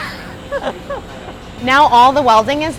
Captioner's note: laughs loudly